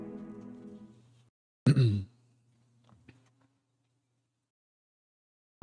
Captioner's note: clears throat